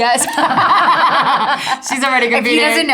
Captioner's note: Natalie and Eiza laughing